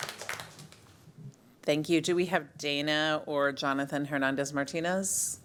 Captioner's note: applause